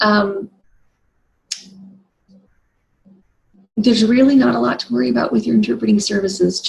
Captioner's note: lips smack